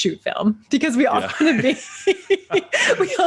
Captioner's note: both laughing